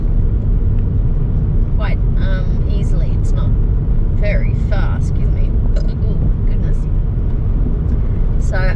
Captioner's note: burps